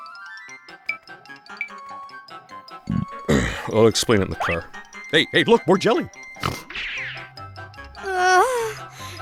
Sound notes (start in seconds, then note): 2.8 burp; 6.4 snort; 7.5 moan